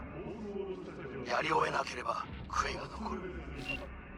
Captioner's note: speaking foreign language